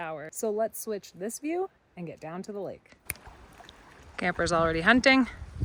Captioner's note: snaps